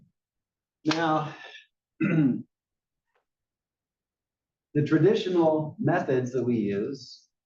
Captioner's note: cough